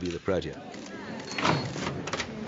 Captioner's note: murmuring